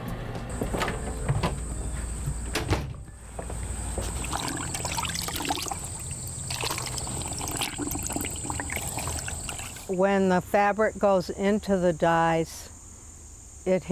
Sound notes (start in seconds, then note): 0.5 door opening and closing; 1.2 dye sloshing